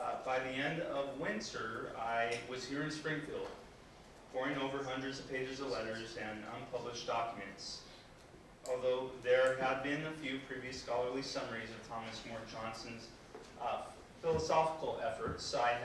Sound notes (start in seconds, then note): none